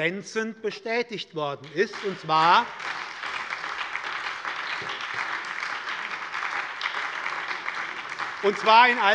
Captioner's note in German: Beifall bei der SPD